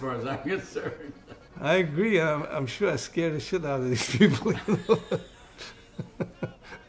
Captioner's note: laughing; laughing